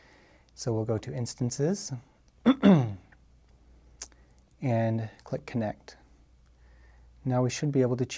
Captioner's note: cough